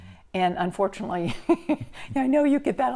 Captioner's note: laughs